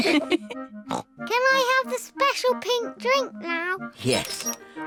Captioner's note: all laugh; snorts